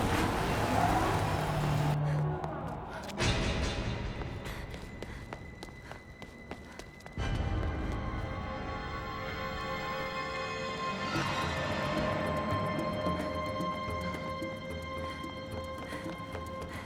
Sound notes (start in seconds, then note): 2.3 Gage panting; 2.3 footsteps thudding; 11.4 suspenseful music